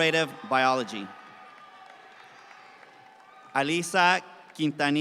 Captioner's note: audience cheering and clapping